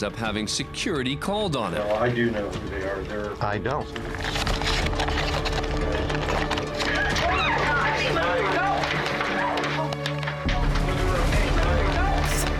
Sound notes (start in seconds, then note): 3.9 scuffling noises; 6.9 screaming